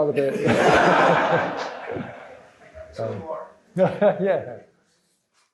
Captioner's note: laughter